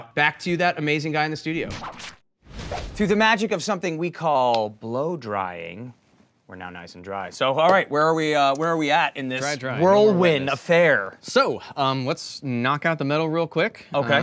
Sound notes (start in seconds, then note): 1.5 record scratch